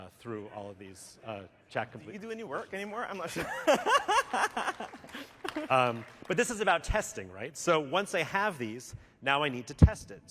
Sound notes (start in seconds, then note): 3.2 laughter; 4.1 applause